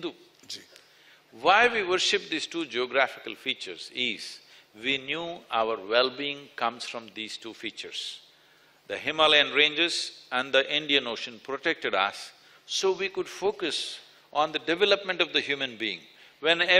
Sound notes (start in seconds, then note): none